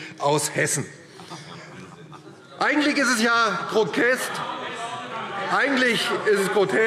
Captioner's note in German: Lachen CDU - Zuruf CDU: Das ist unglaublich!